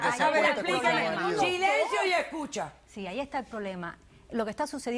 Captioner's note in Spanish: Hablan al unísono